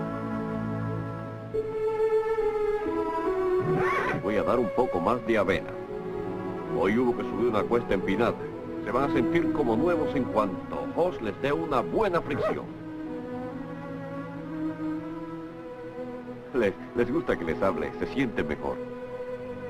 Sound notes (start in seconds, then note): 3.6 neighs